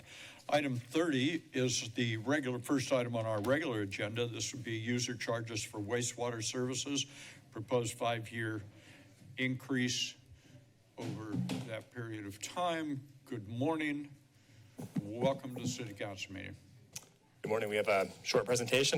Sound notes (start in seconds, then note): none